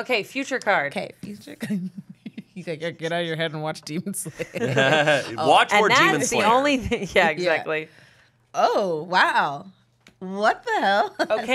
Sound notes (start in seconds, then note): 2.1 laughs